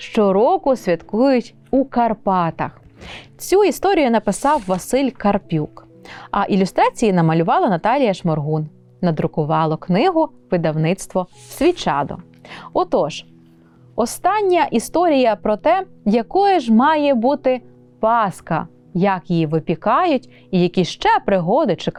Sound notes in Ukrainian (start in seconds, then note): 3.0 сопіння